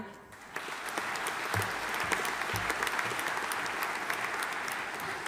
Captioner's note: audience applauding